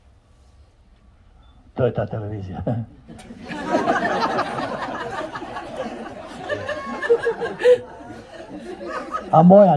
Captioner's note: laughter